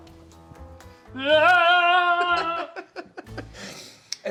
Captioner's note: shouts cheerfully; cheerful shouting; laughing